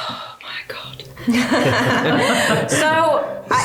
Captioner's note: laughing